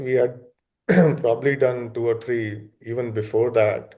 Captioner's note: coughs